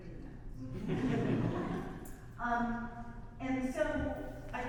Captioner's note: audience laughs